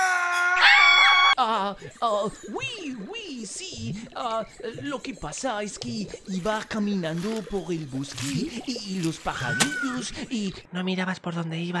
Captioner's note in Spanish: Acento Francés y nervioso